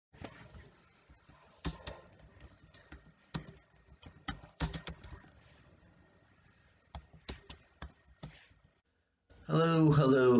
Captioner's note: tapping on the keyboard